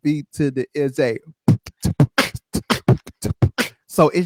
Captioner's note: beat-boxing